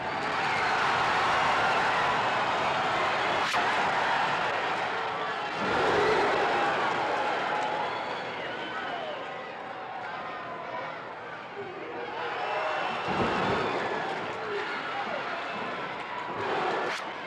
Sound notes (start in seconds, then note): 5.5 crowd oohs; 14.4 crowd applauds